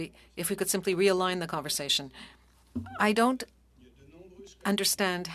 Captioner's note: speaking French